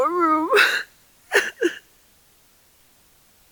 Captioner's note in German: weint